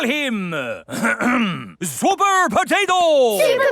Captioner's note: clears throat